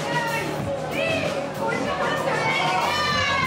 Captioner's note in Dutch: Geschreeuw